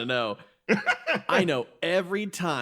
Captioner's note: laugh